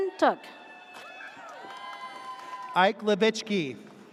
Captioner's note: audience cheers